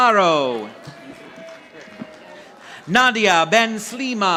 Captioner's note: audience applauding